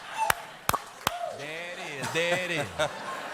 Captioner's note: laughter